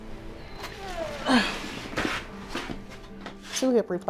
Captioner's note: sighing